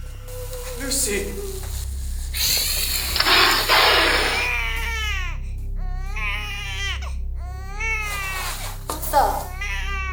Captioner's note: Lucy hissing and growling. Baby cries